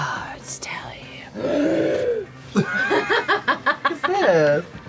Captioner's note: gasps and laughs